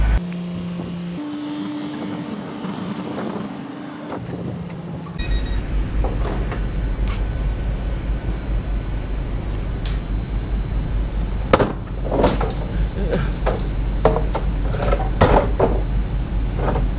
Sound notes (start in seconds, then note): 0.1 sped up sound; 6.0 door sound